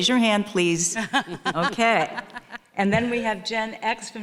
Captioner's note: panelists laughing